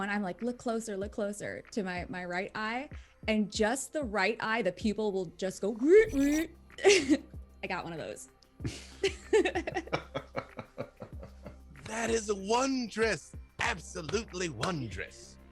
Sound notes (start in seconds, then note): 6.0 whirring; 8.7 she laughs